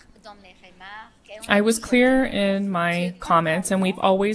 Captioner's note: speaking French